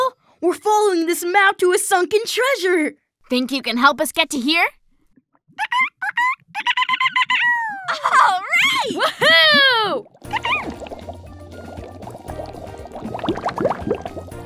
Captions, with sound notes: We're following this map to a sunken treasure. Think you can help us get to here? [chirps] (GIGGLES) All right! Woo-hoo! [chirps] [water gurgling]